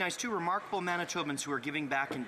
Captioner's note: speaking French